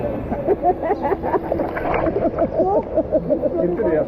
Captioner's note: laughter